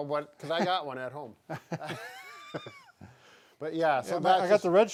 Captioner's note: both laughs